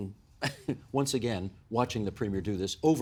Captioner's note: laughing